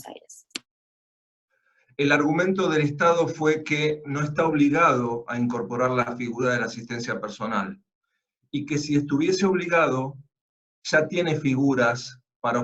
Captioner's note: Spanish